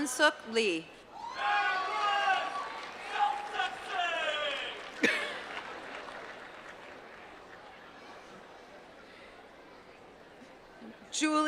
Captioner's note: applause